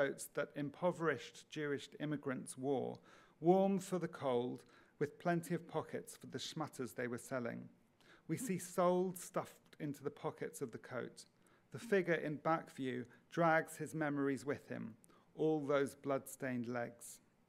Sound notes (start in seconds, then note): 6.8 speaks in foreign language